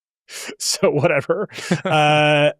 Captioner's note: both laughing